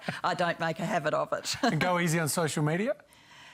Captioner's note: laughs